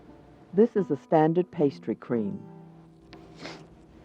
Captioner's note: voiceover